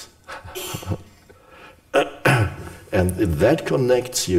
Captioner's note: Eckhart laughs